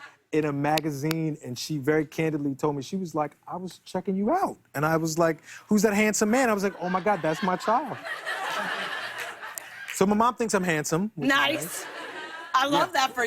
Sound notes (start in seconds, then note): 6.6 laughter